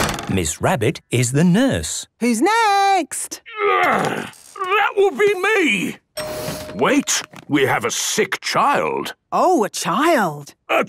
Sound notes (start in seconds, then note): 6.2 door dings open